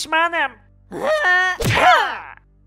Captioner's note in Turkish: Yumruk sesi